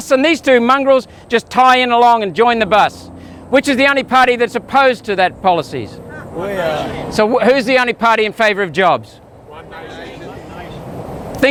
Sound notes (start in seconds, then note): 6.1 crowd; 9.5 crowd